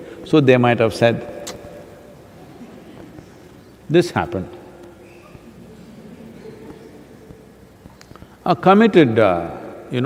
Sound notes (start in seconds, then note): 6.1 laughter